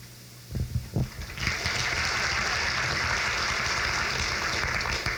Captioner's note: crowd claps